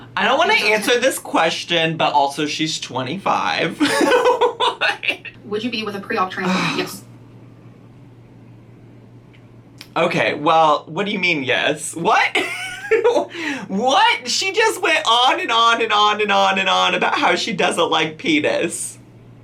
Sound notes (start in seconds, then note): 3.8 laughs; 12.2 laughs